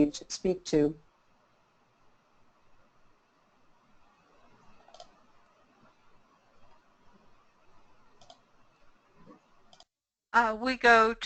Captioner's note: silence